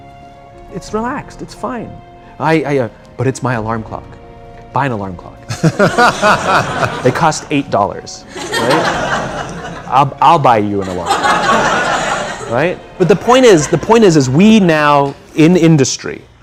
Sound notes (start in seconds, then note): 5.4 laughter; 8.3 laughter